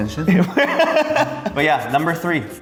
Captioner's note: laughing